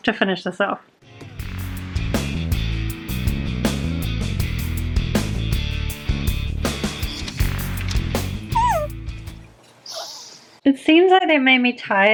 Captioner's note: yawn